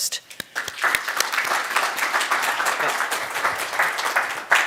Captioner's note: audience clapping